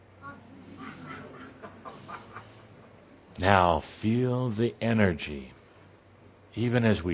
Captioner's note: audience murmuring